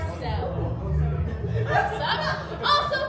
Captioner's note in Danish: publikumsmedlemmer griner